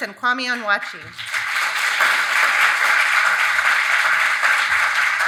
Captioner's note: audience applauding